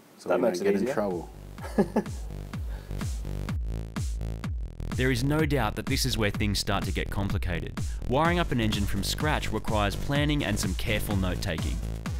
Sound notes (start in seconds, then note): 1.6 laughs